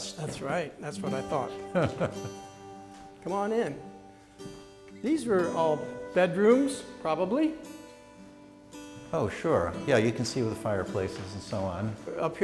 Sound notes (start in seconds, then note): 1.7 laughter